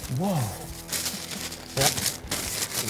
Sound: rustling

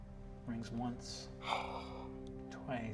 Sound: gasps

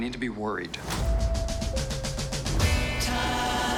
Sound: dinging

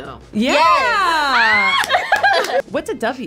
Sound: screams; claps

